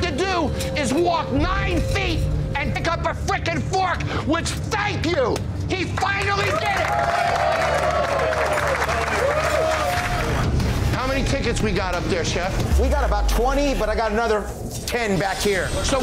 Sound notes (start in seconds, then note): 5.9 patrons cheering